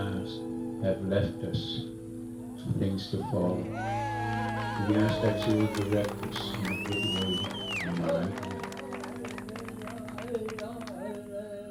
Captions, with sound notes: have left us some things to follow. (shouting) We asked that you will direct us. (chanting)